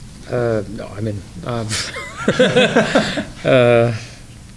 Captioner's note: laughs